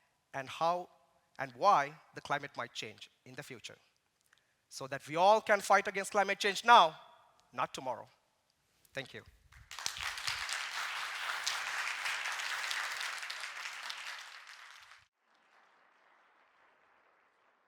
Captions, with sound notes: and how and why the climate might change in the future, so that we all can fight against climate change now, not tomorrow. Thank you. [APPLAUSE]